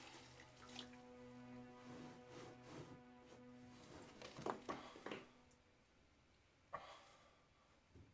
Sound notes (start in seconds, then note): 4.7 sighing